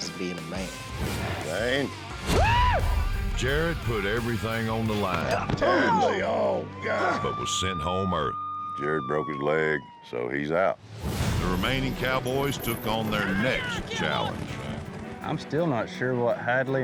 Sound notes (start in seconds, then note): 5.3 groans, thud; 9.4 sirens wailing